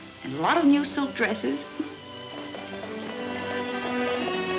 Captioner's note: giggling; hooves clunking